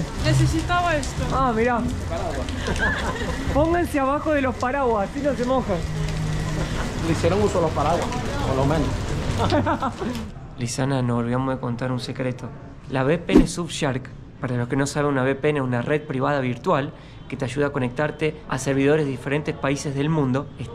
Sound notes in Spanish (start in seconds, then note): 9.4 Risas